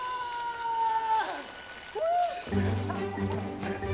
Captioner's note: laughing victoriously